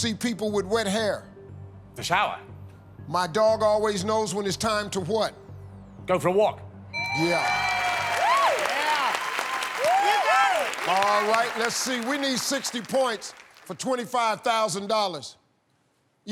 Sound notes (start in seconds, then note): 7.0 bell ringing; 7.1 cheers and applause